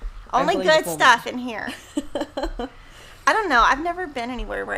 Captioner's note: laughs